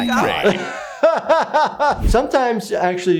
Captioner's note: laughs